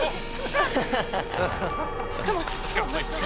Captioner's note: suspenseful music; puppet laughing